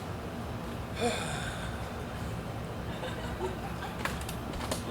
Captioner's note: Lysander sighs